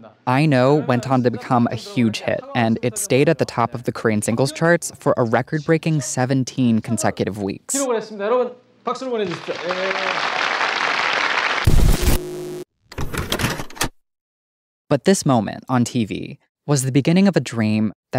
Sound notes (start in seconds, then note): 0.0 host speaking in Korean; 7.8 host speaking in Korean; 9.1 audience applauding